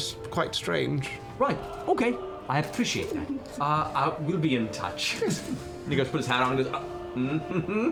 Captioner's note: chuckles